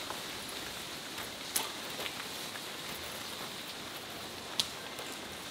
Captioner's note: footsteps crunching